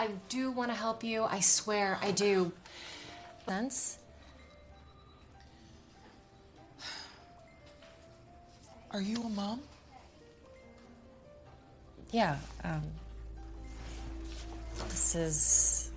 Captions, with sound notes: I-I-I do want to help you. I swear r I do. But I cannot call people suspects on liveve TV [sighs] Are you a mom? Yeah. Um.....